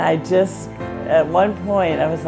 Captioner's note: none